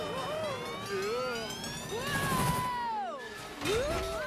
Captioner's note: animals shouting